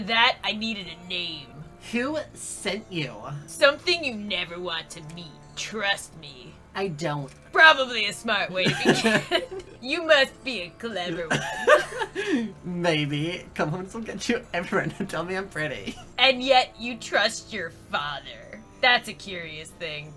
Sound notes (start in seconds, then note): 8.6 lols